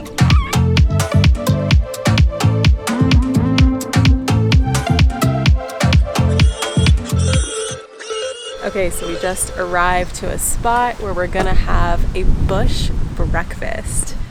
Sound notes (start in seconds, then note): 0.0 upbeat feel-good music continues; 6.5 hogs squealing loudly